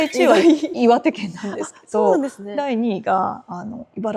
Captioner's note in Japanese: 笑い